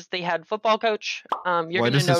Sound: pop!

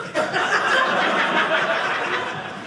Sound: audience laughing

